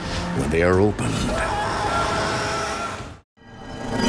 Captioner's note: boy screams